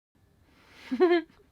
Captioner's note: laughs